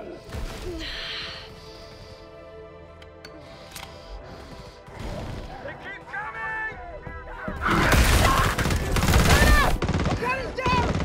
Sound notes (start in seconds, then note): 7.9 explosions